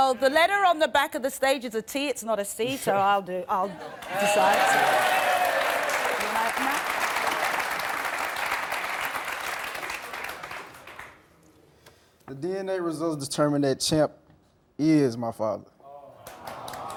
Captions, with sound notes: - Well the letter on the back of the stage is a T. It's not a C, so I'll decide. (clapping and cheering) - The DNA results determine that Champ is my father.